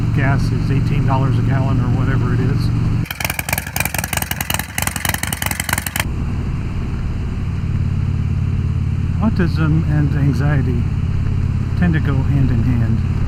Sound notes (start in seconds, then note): 3.0 engine rumble